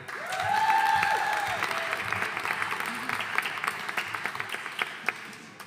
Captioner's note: audience cheering and applauding